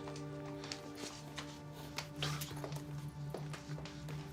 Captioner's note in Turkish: Ayak sesi